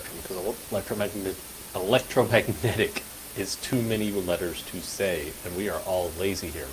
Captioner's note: laughter